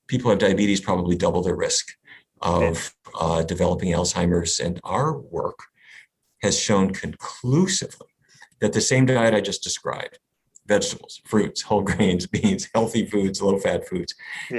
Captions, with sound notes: people who have diabetes probably double their risk of developing Alzheimer's. And our work has shown conclusively that the same diet I just described, vegetables, fruits, whole grains (laughs), beans, healthy foods, a little fat foods